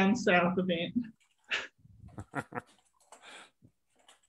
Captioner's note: chuckles